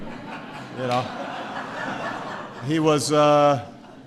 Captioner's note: laughter